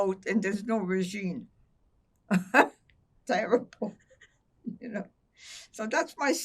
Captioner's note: laughing